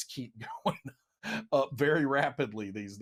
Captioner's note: laughs